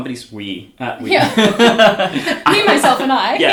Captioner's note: both laugh